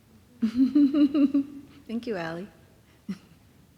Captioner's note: laughs